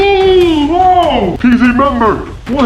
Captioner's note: room 1 hacker moaning